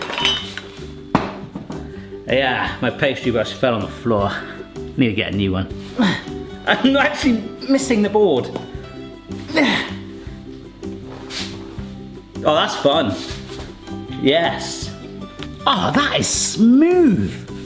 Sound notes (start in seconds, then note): 0.0 metal clinking; 1.1 brush thuds; 6.0 grunts; 9.5 grunts